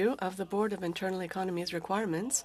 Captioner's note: speaking French